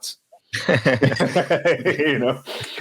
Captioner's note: speakers laughing